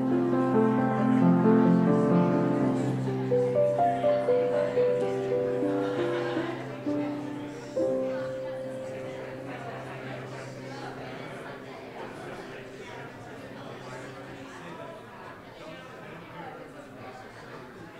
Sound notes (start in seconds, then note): 12.0 people chattering